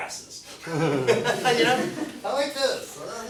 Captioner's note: class laughs